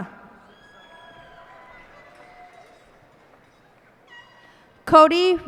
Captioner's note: cheers and applause